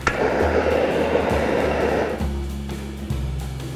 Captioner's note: blowtorch pops; flame hisses; jazzy music